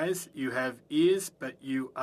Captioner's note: speaking French